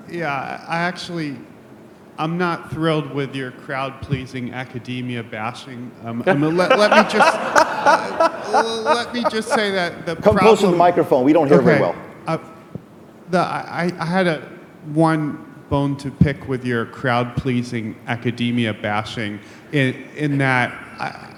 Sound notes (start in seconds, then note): 6.2 laughing